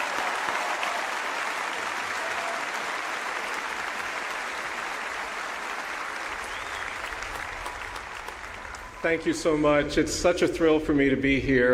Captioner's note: applause